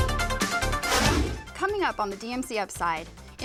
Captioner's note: deep swooshing